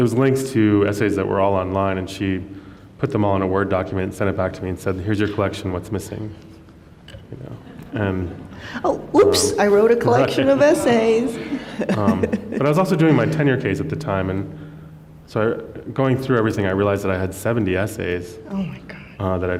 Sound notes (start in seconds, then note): 11.5 laughs